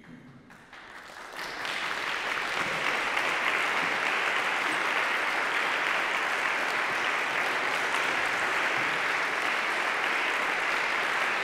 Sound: audience applause

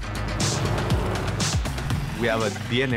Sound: engine revving

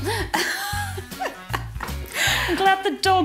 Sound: laughs

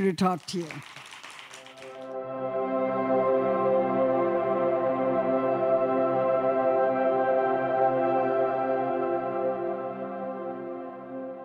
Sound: applause

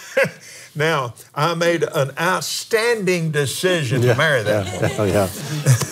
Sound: laughs

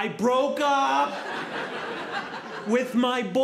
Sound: audience laughing

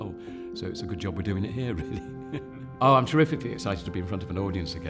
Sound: laughs

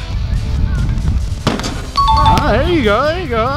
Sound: ding

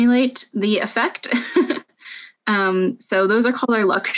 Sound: laughing

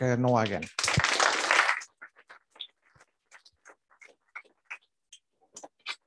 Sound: applause

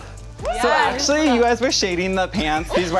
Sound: cheering

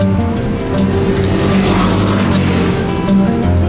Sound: motorcycle noise

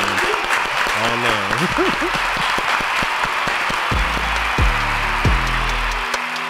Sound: applaud; crowd applauds; upbeat music

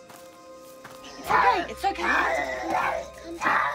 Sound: growling

